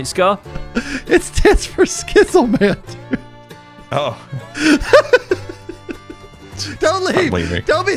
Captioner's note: laughs